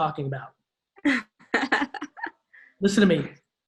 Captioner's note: laughs